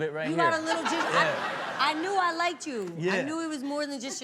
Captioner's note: all laugh